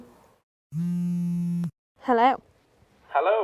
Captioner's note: phone vibrates